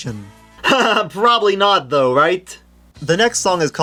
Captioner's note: laughs